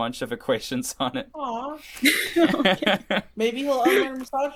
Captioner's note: laughter